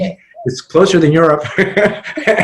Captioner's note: laughs